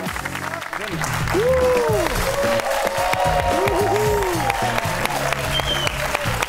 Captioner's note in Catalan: aplaudiments